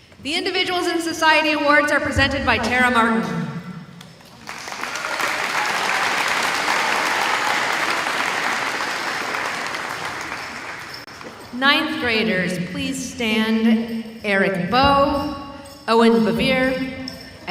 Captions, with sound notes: The Individuals in Society Awards are presented by Tara Martin. (audience applauding) (bells ringing) Ninth graders, please stand. Eric Beaux, Owen Bevere,